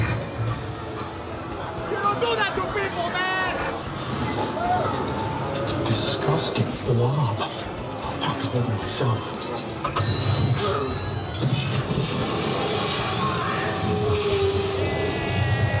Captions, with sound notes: - You don't do that to people man! - Disgusting blob. (zapping) - Yeah!